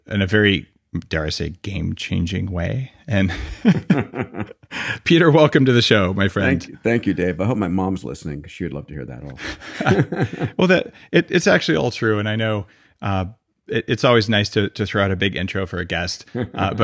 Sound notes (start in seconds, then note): 3.2 both laughing